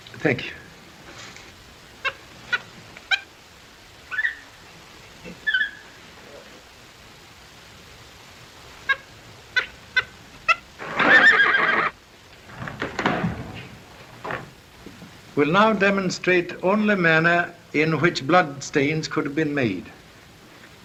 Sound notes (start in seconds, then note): 1.9 monkey squeaks; 8.7 monkey squeaks; 10.8 horse neighs